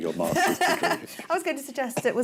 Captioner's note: laughs